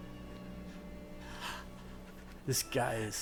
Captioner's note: breathing